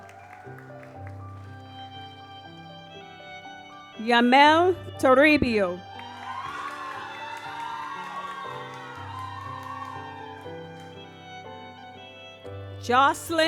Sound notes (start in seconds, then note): 0.0 audience applauds; 5.7 audience cheers; 9.5 gentle music